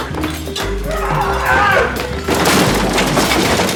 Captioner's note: grunting